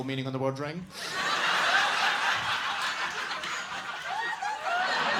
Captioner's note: audience laughing